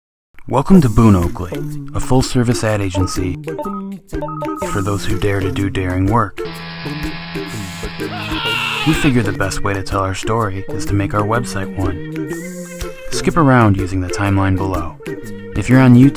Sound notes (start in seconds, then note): 6.4 buzzing sound; 8.0 sound of man screaming